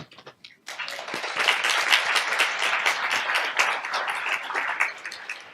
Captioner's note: audience applauds